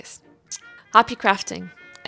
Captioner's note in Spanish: mwah